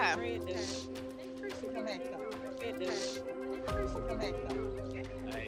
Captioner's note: sniffling